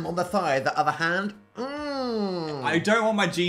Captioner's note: hums